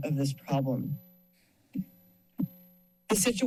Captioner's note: pause